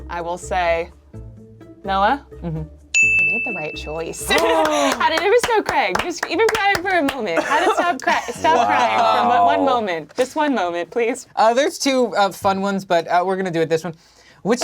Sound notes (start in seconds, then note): 4.2 clapping